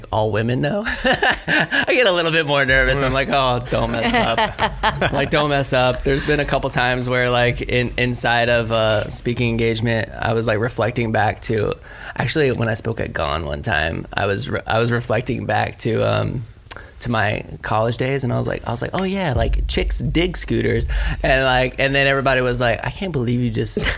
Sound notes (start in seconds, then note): 0.9 laughs; 4.5 laughs; 23.8 laughs